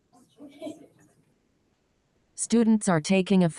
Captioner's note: people chatter indistinctly